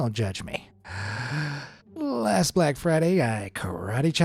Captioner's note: breathes deeply